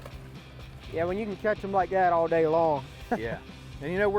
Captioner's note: fish flapping in water